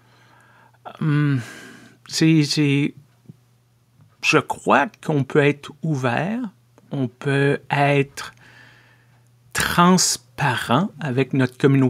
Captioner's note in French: soupir